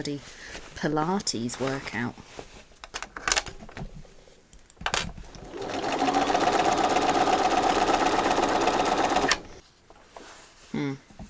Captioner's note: sewing continues